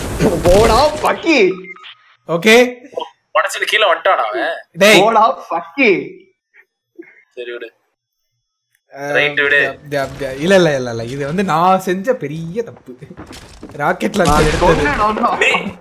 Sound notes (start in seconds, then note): 8.7 stammers